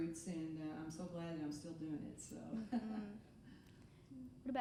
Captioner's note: laughing